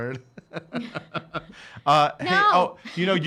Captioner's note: laughing